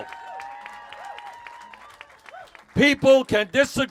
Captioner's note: cheers